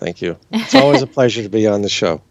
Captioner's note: chuckles